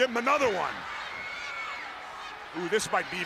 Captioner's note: crowd cheering